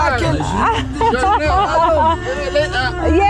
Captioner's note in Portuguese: em árabe; risos; falatório